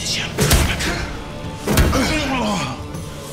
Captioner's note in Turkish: Darp sesleri